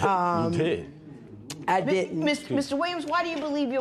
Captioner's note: scoffs